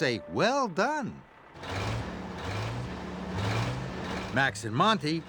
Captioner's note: engines revving